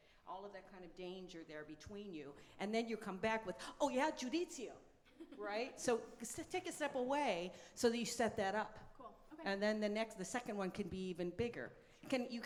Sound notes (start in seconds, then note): 4.2 speaks in foreign language